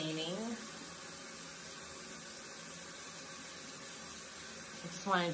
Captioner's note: running tap water